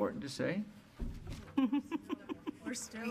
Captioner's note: female speaking faintly